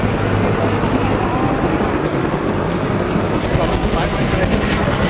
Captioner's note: chopper whirling